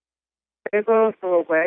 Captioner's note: speaking in foreign language